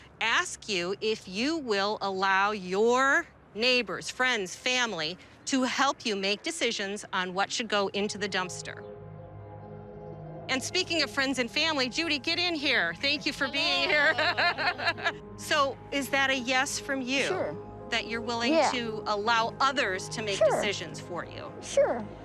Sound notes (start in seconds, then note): 13.4 laughs